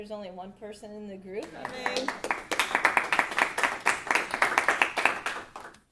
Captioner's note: audience applauding